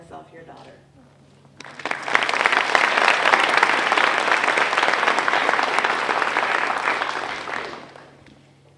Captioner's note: applause